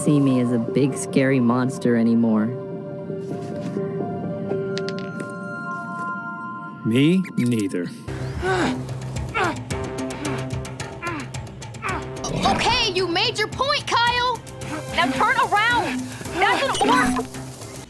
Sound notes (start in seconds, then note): 9.2 Kyle grunting in pain